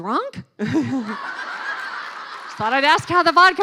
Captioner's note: laughing